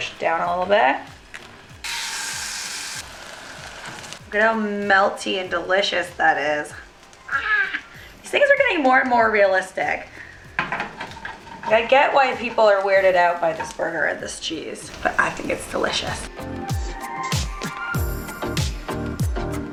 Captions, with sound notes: Squish it down a little bit. (sizzling) Look how melty and delicious that is. Ahh. These things are getting more and more realistic. I get why people are weirded out by this burger and this cheese but I think it's delicious. (upbeat happy music)